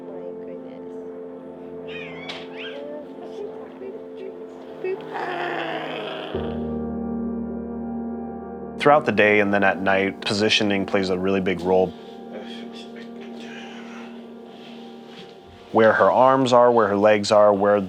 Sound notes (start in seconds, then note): 4.8 cooing